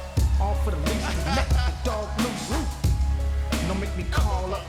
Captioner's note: Percy laughing